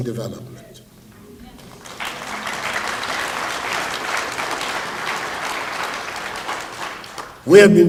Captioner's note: applause